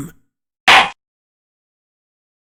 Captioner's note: gavel slam!